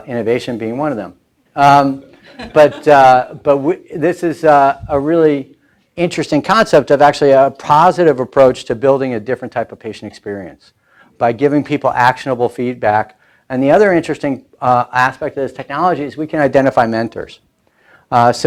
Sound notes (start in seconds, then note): 1.9 laughing